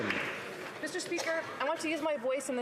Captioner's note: applause